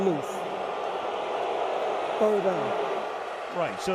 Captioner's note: crowd booing